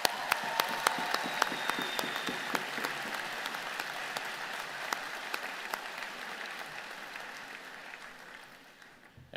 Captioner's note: applause